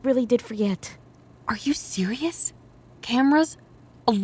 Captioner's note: whispered